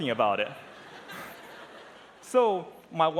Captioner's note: laughter